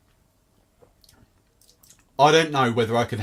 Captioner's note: smacks lips